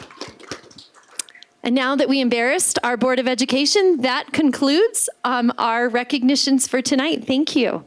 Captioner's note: applause